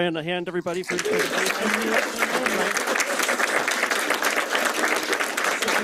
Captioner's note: applause